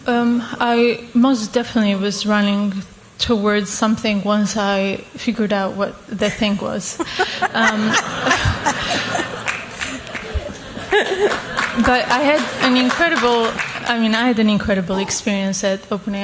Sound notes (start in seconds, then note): 6.9 laughter; 8.8 applause